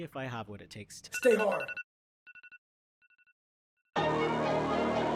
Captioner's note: alarm Ringing